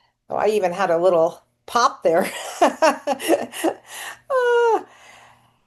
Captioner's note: laughing